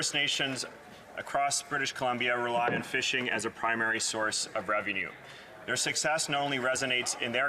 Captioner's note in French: voix de l'interprète